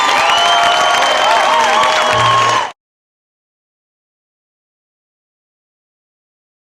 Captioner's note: cheering continues as audio fades